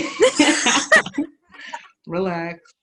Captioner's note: both laughing